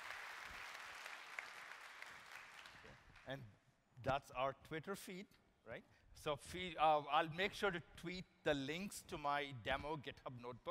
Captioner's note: applause